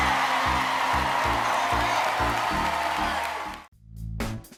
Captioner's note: cheers and applause